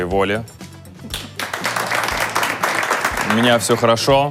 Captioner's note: applause